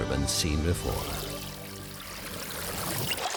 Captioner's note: water bubbling